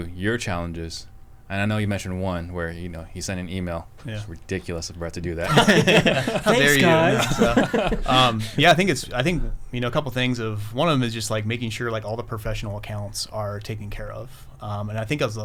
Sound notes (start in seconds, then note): 8.1 laughter